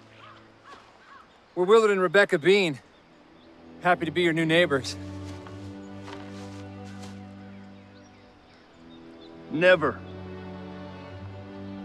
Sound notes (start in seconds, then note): none